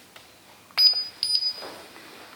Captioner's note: beeping